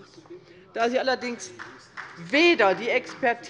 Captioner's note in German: Beifall